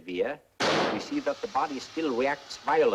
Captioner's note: air hissing